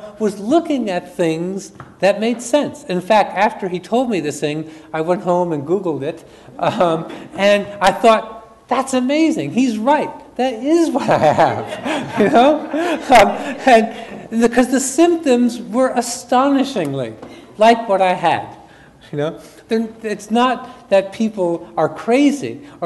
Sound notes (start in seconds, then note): 11.0 audience laughs; 11.0 chuckles